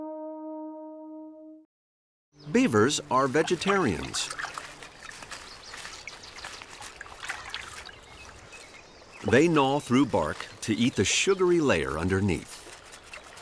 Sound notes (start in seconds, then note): 4.7 water splashing